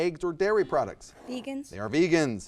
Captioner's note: buzzer buzzes